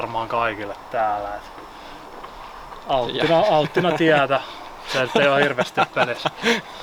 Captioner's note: laughter